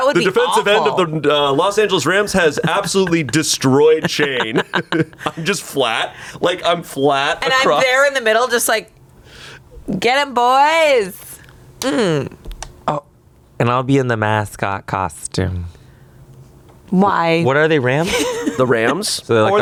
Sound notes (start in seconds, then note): 2.3 laughs